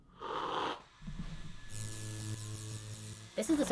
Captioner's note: slurp; coffee machine whirring; electricity zapping; fast and high pitched